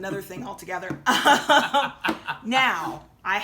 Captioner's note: laughing